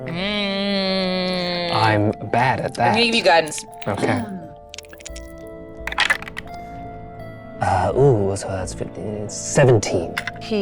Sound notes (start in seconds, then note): 5.8 dice clattering